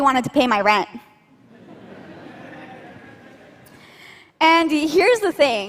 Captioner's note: laughter